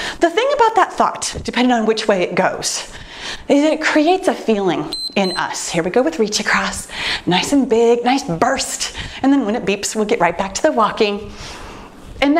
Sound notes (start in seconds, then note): 4.9 timer beeps